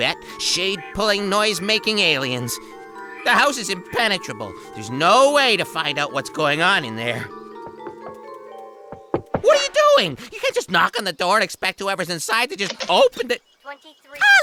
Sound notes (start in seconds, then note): 7.4 knocking; 14.2 bad french accent